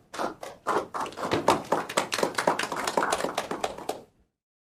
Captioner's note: applause